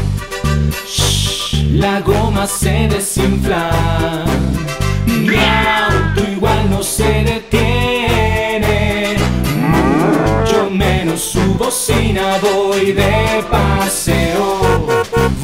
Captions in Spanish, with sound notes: (Sonido de lechuza) La goma se desinfla (Sonido de gato) Miauto igual no se detiene (Sonido de toro) Muuucho menos su bocina Voy de paseo (Sonido de Bocina)